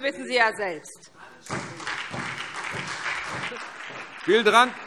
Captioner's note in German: Beifall : „Anstreben“!